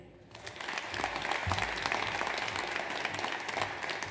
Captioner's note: audience applauds